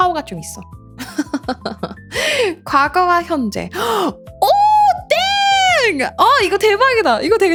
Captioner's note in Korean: 웃음; 비명